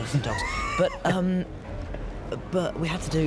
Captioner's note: shephard chuckles